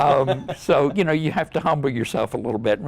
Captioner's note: laughter